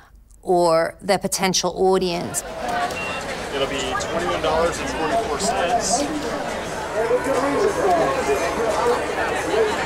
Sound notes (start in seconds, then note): 2.0 background chatter; 2.7 cash register beeping